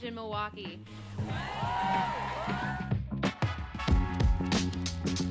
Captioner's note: cheering; upbeat music